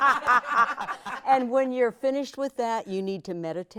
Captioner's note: laughing